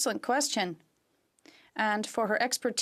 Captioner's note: speaking in french